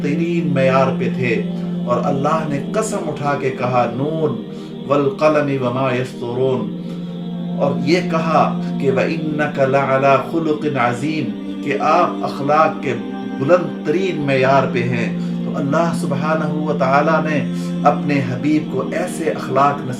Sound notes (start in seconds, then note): 3.5 Arabic